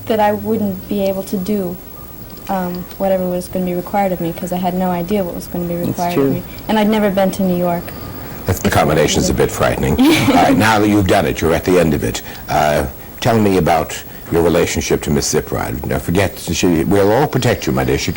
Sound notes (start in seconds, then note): 9.8 laughs